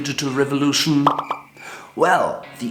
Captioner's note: popping; crickets